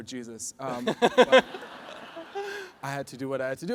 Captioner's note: audience laughs